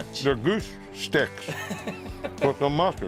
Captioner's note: laughing